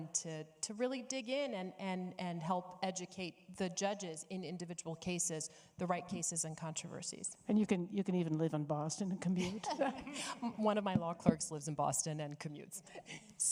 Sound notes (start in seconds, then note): 9.4 laughing